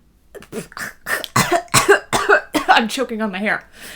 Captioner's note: slight choking and coughing